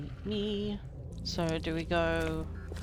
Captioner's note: speaks